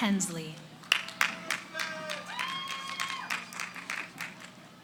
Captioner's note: cheering